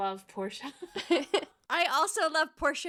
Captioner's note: laughing